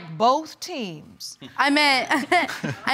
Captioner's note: laughs; chuckles